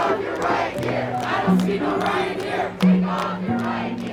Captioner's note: chanting